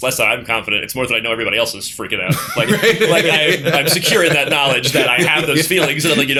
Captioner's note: laughter